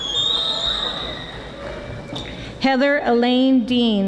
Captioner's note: audience whistling